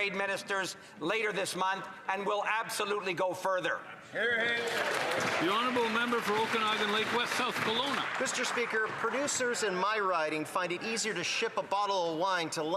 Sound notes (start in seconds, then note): 8.9 some Applause